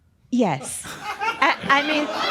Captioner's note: some laughter